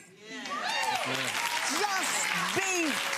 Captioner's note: audience cheering